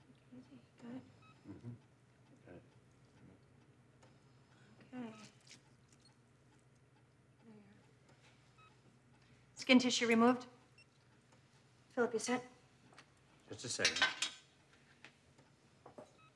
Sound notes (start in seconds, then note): none